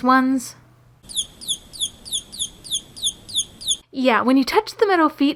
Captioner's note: chirping noise